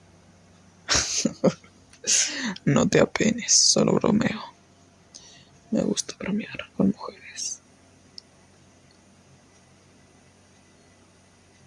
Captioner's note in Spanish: risas